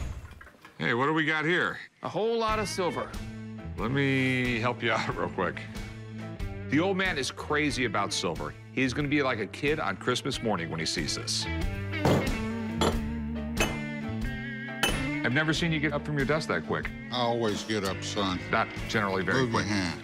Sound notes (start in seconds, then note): 11.7 clinks